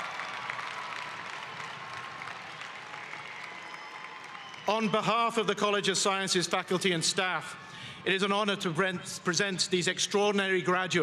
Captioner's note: applause